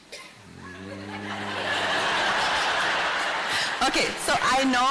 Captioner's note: laughter